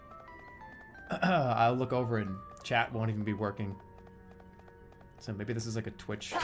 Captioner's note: clears throat